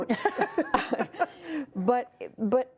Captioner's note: laughter